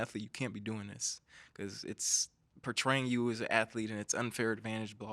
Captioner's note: none